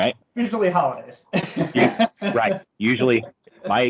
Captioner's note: laughs